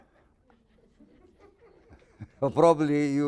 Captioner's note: scattered laughing